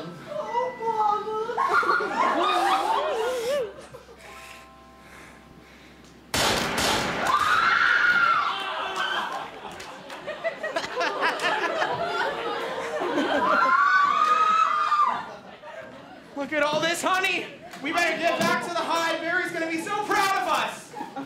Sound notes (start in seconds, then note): 6.3 bang. bang. bang; 7.2 audience screams